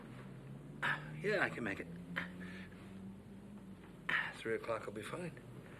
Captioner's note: groans